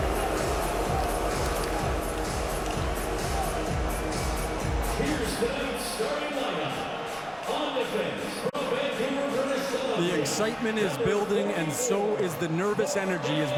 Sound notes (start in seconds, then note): 3.3 cheering and Applause